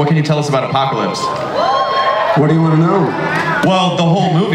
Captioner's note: audience cheers